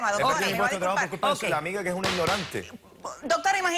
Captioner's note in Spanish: Hablan al unísono